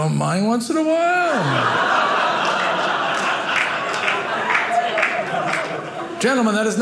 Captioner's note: audience laughing